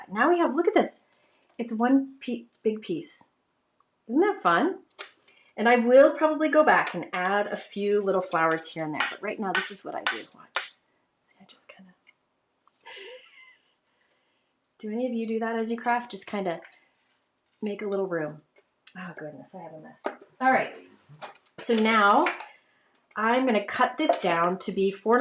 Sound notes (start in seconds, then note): 12.9 laughs